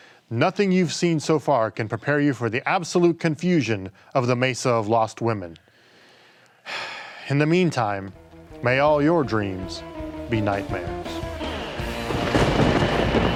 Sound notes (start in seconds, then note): 4.4 sighing; 9.5 energetic spooky music